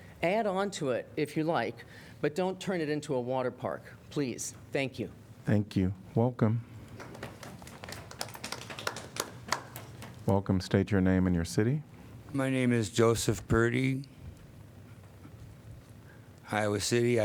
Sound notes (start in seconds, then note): 6.9 applause